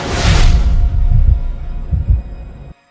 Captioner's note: music stops; heartbeat thudding